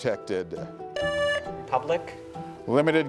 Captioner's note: buzzer buzzing